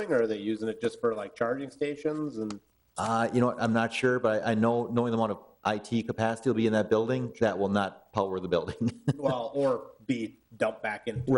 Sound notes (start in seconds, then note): 8.6 chuckling